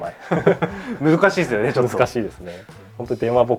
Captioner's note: laughs